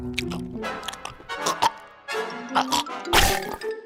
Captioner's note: gags